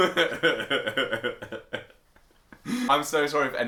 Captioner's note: laughter